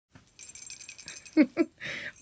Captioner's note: bells rattle; chuckles